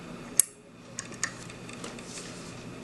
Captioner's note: click